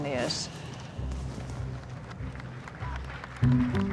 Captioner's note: applause